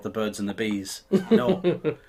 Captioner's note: laughing